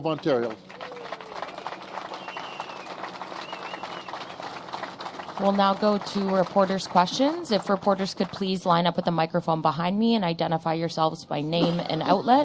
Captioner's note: applause